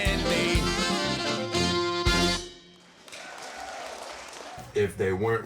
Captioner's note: group applauding